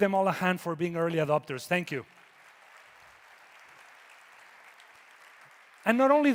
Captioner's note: audience applauding